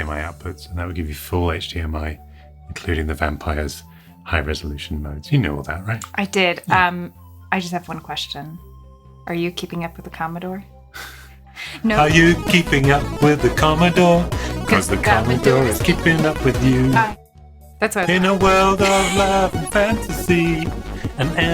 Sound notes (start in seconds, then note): 11.6 laughs